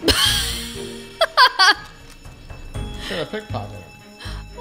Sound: laughs

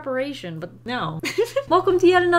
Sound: giggles

